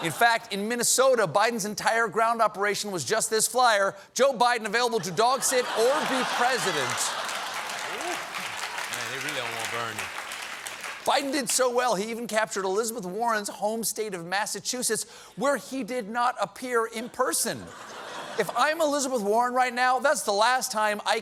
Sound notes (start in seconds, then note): 5.9 applause; 6.9 laughter